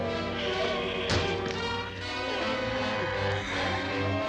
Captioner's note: dramatic instrumental music; wood clattering